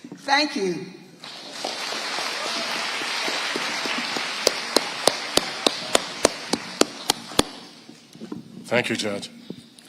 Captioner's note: audience applauding